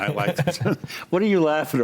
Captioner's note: laughs